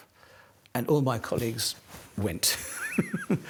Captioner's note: laughs